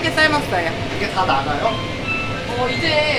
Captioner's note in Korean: 띠리리링